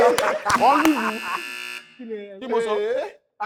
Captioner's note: buzzer pressed